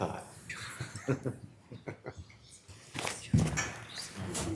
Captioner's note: members laughs